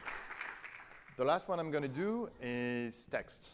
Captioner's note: applause